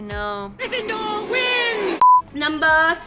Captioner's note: beep